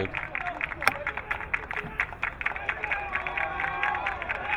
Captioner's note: crowd clapping